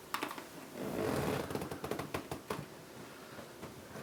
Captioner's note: bed creaking